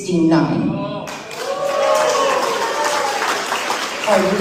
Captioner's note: applause